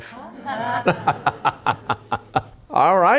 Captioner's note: laughter